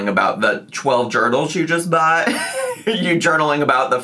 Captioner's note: laughs